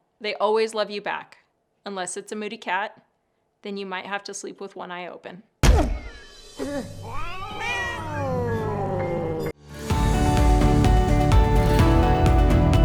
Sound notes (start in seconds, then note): 7.1 meows; 9.6 upbeat music